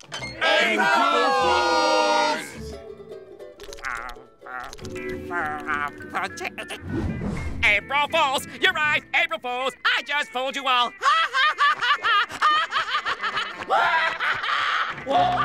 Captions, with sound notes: April Fools! [babbling] April Fools. You're right. April Fools. I just fooled you all. [laughing]